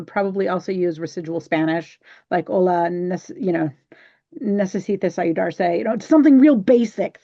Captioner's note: speaking Spanish